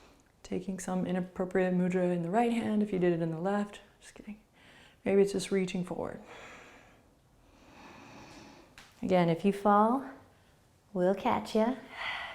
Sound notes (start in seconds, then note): 7.4 breathing